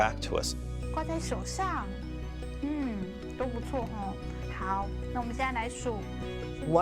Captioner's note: woman speaking in a foreign language